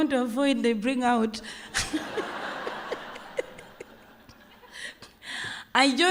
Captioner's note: laughter